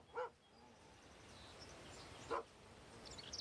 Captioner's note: dogs barking in distance